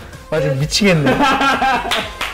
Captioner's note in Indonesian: tertawa